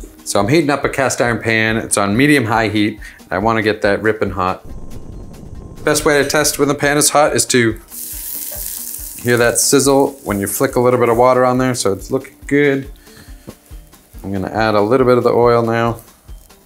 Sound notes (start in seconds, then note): 7.8 pan loudly sizzling